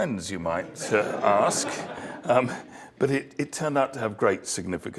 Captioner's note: laugh